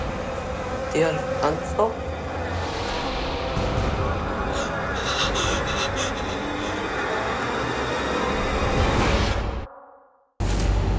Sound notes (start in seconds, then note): 0.5 speaking Spanish; 4.2 gasping; 6.5 spooky music